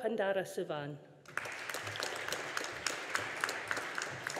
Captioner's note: audience applauding